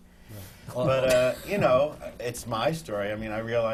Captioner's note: laughter